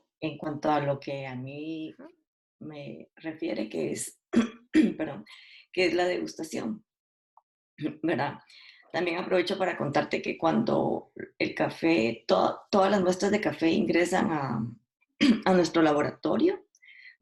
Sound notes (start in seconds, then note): 4.3 cough